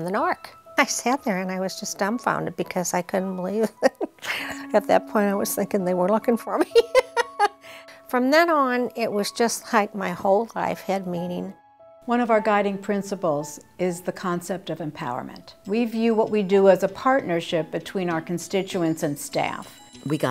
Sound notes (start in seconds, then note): 6.7 laughs